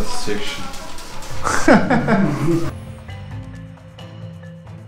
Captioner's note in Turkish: Gülüşmeler